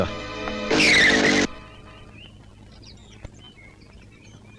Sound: birds Chirping; tires Screeching

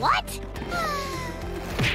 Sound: sighing; groaning

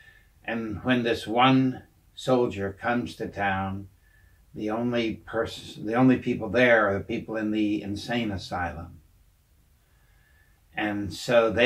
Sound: Scottish

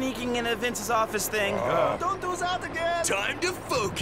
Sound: groaning

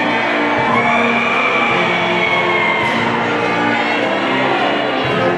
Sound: people cheering and screaming

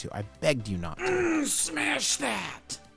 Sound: groans

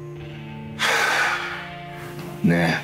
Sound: Giacomo sighs

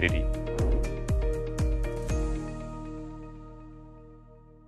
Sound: air whooshing

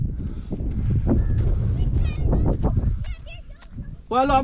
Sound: can hear the kids voices

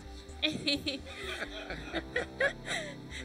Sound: scientist laughing; group laughing

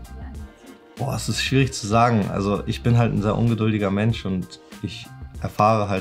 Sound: speaking foreign language

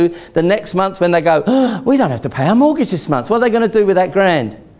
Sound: gasps

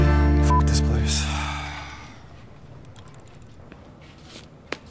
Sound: beep

